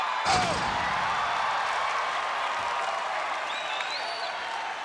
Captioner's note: crowd cheering